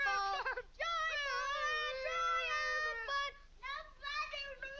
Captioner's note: shouts muffled